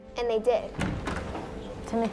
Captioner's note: doors rattling